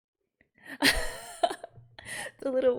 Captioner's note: laughs